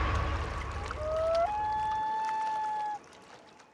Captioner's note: whooshing; loon calls